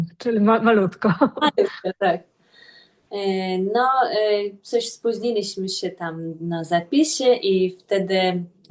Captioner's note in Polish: śmiech